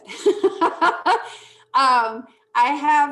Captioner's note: laughing